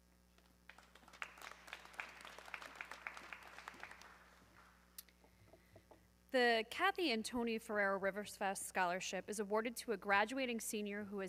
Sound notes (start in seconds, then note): 0.6 audience clapping